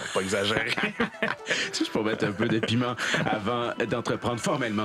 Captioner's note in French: rires